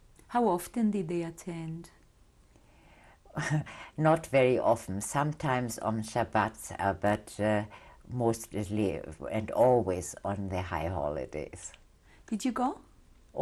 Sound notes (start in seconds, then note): 0.0 pauses for 3 seconds; 3.3 laughs